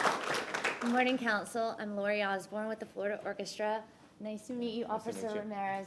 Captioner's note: applause